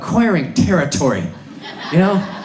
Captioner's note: audience laughs